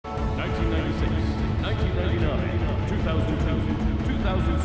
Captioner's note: voiceover